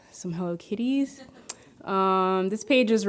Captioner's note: audience laughing